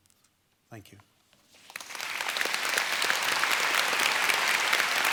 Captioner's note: applause